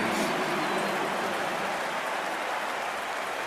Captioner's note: crowd cheering